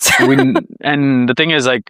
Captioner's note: laughs